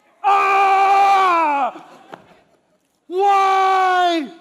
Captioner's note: screams; laughter